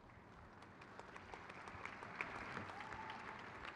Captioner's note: crowd claps